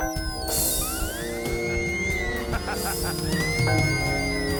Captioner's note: bell